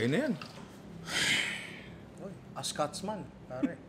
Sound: sighs

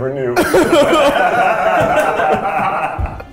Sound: laughing

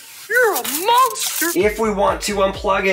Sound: film rasping

